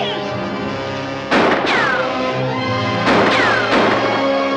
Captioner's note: gun firing